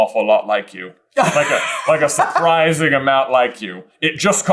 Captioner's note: laughing